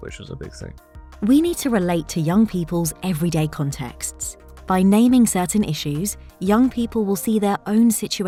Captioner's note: automated Narration